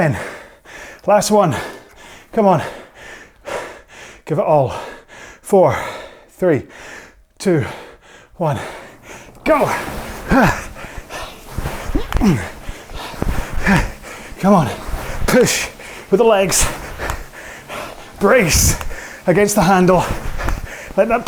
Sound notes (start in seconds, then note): 10.3 breathing heavily